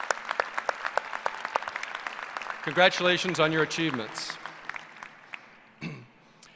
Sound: applause

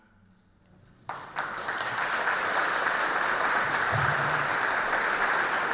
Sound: audience clapping

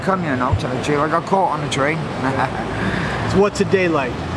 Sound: laughs

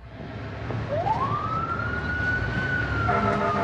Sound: siren wails

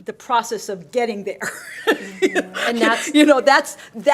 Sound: laughs

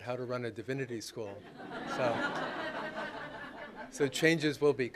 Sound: laughter

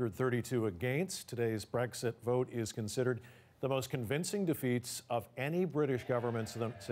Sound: cheering

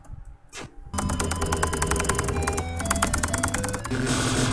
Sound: angry tapping

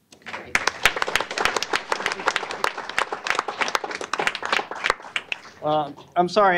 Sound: applause

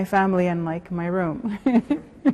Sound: laughing

